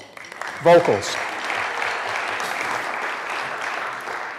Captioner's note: applause